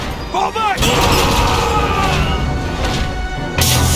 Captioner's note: death scream